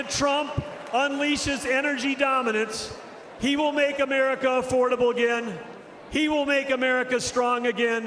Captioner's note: cheering and applause